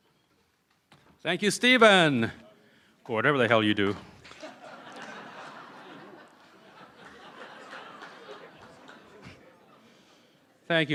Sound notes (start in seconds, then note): 2.4 cheering & Applause; 7.3 laughter